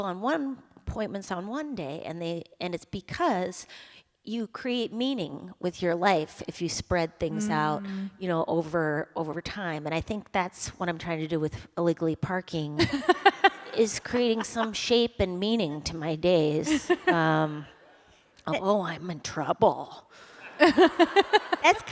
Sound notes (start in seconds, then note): 12.8 laughter; 16.6 laughter; 20.4 laughter